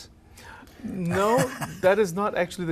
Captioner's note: laughs